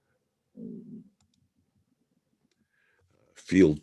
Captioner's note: mouse clicking